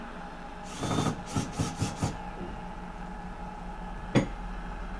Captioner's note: drill whirring